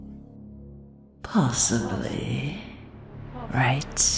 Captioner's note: echoing